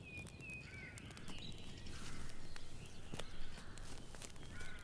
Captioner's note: birds chirping